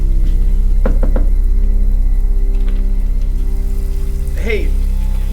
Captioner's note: tapping at door